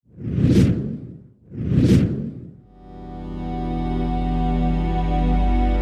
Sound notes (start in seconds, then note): 0.1 air whooshing; 2.7 droning music